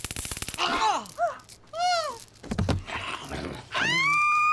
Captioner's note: taser zapping; bucky groans; bat thudding; vivien screaming